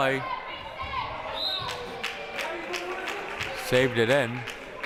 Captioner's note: whistle blaring